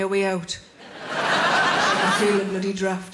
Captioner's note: audience laughing